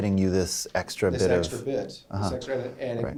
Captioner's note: voiceover